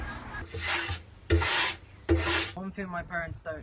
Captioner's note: sweeping